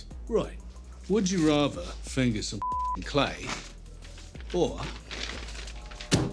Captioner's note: beeping